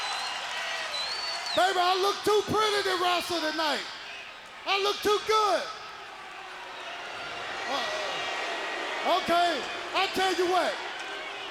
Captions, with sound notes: Baby, I look too pretty to wrestle tonight. I look too good. (crowd boos) Okay, I tell you what.